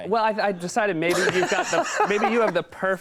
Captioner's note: Conan laughs